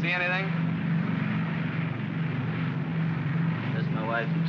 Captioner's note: aircraft rumbles